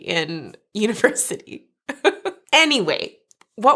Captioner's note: chuckles